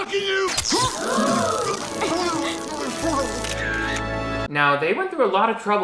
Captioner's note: mall goers gasp